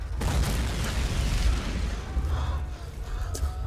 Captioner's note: boom exploding